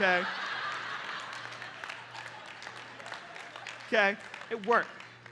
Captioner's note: laughter and applause